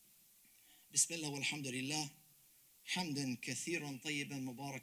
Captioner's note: speaks Arabic